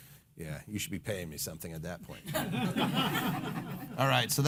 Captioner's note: laughing